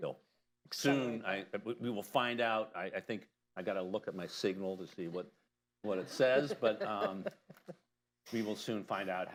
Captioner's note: laughter